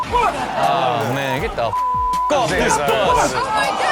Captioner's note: beep